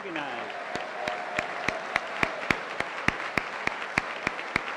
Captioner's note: applause